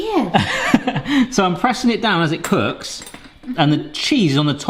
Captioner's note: laughs